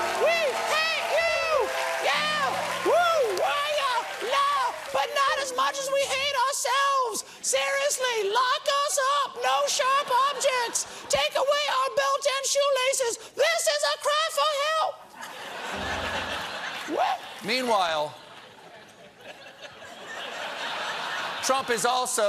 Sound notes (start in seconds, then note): 15.1 laughter; 15.7 piano riff